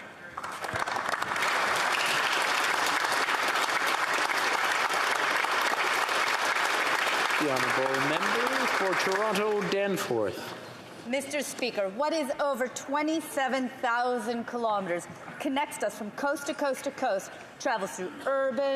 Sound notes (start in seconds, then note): 4.8 applause